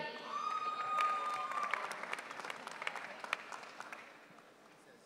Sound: audience cheering

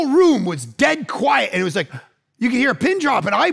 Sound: gasp

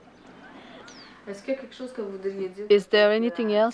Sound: residents laughing; speaking in foreign language

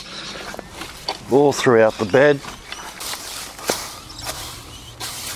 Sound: leaves rustle

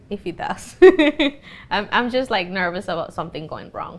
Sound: laughs

